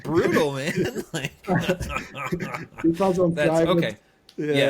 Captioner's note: laughing